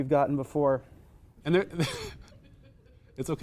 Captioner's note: wheeze